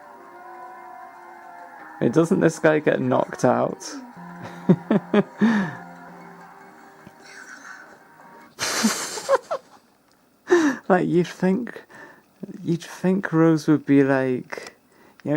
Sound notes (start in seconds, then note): 4.5 titters; 8.6 bursts into rat laughter